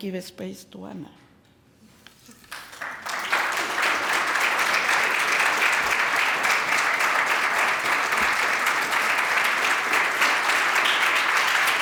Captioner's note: clapping